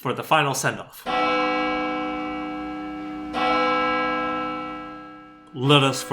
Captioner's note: church bells